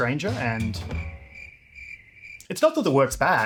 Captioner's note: crickets